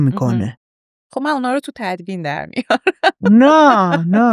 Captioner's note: laughs